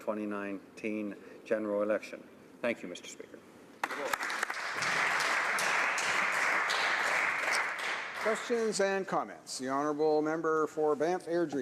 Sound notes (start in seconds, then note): 7.0 applause